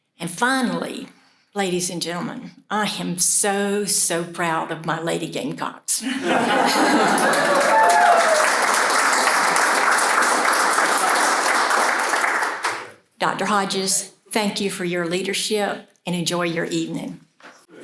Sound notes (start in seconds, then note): 10.1 cheers and applause